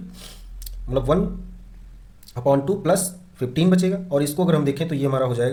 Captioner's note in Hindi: नाक से की जाने वाली आवाज़